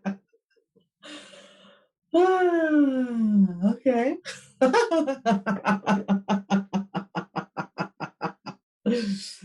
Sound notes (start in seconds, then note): 4.4 laughs